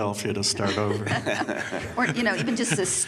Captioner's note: laughter